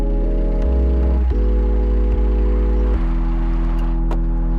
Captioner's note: car rumbling